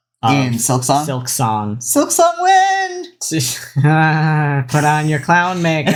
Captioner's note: laughs